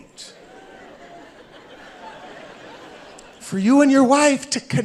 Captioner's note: audience laughing